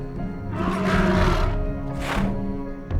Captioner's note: roars